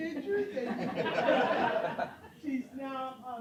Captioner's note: laughter